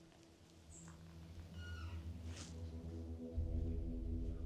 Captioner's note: door creaking